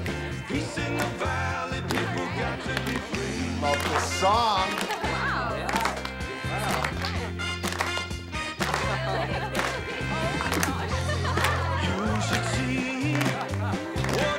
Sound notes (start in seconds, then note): 4.2 laughs; 6.4 students clap rhythmically; 8.1 upbeat 60s pop music; 8.6 laughs